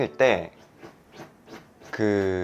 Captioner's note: scratch!; scratch!!; scratch!!!